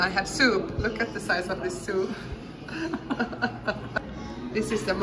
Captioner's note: laughter